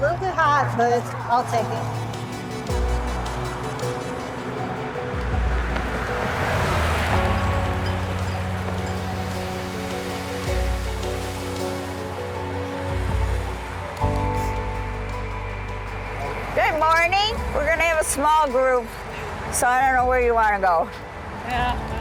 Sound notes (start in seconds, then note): 3.4 pensive music; 3.4 vehicles whirring; 9.3 water spraying